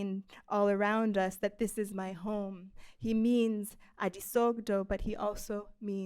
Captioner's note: speaking I foreign language